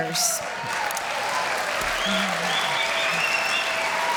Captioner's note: applause